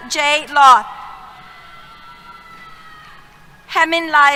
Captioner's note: cheers